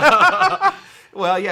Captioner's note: both laugh